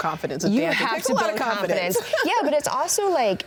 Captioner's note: laughs